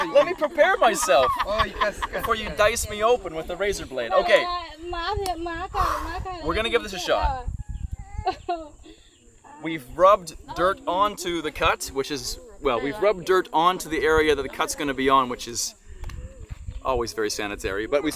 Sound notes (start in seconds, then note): 0.0 girls laughing; 5.7 Mursi spoken; 5.8 breathes out heavily